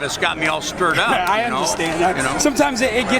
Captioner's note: laughs